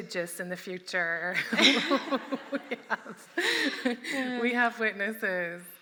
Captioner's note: laughing